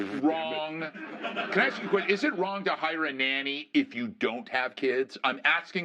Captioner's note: laughter